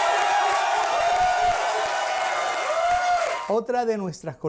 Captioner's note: Aclamaciones y aplausos